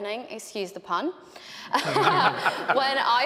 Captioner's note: laughing